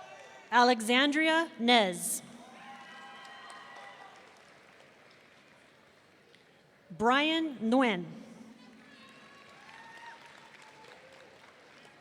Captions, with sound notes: Alexzandrea Nez. (audience cheering) Bryan Nguyen. (audience applauding)